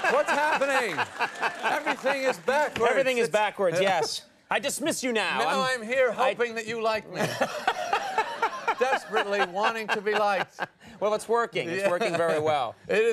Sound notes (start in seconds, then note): 7.1 Conan and audience laugh; 10.3 Conan chuckles